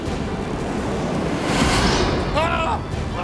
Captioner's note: screaming